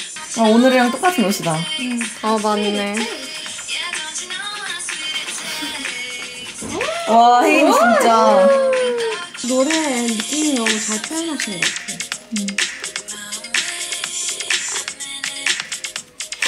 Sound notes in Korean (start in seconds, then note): 6.7 감탄